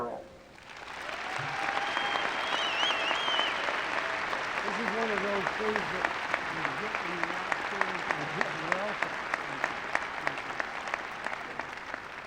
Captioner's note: applause